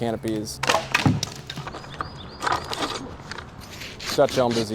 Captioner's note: branches cracking